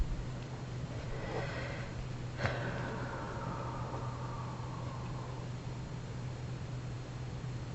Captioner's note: exhales